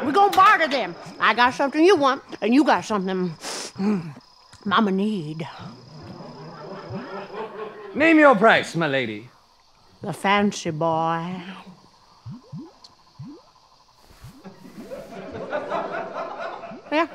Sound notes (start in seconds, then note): 11.5 swamp bubbling; 14.5 audience laughter